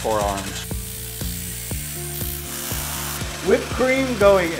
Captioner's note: mixer continues